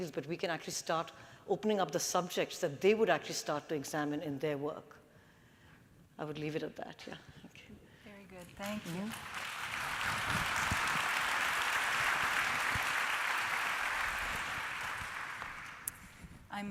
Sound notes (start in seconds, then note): 8.1 applause